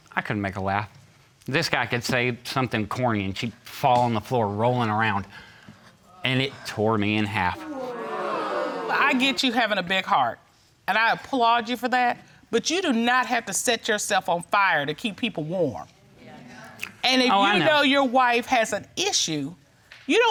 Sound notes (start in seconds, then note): 7.5 audience gasps